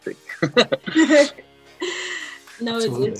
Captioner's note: laugh